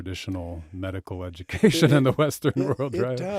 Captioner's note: chuckles